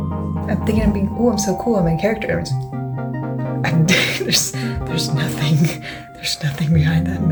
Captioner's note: laughs